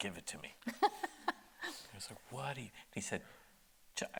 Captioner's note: laughing